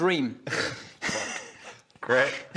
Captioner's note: betrayed laughter